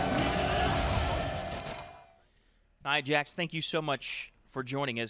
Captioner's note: crowd cheering